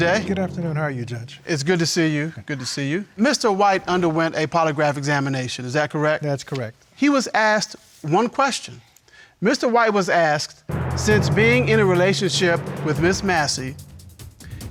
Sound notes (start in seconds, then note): none